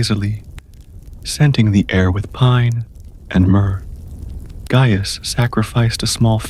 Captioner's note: soft crackle of incense burning